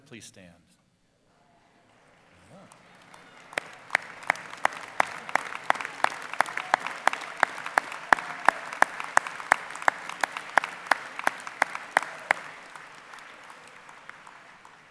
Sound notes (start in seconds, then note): 6.0 applause